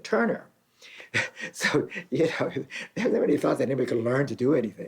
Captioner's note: chuckles